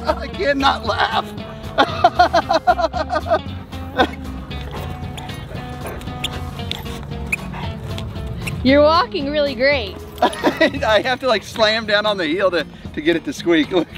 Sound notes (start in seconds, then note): 0.0 Rocky laughs; 0.0 dog grunts; 1.8 Rocky laughs; 4.6 upbeat music; 6.4 Willie panting; 10.2 Rocky laughs